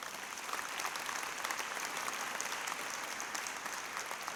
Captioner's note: applause